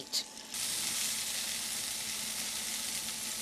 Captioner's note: sizzling